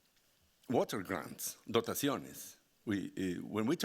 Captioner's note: speaking Spanish